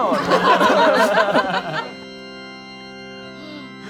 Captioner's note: all laugh